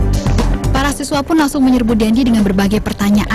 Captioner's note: non-english speech